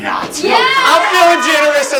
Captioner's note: red team cheer